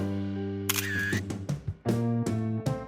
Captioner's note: camera shutter click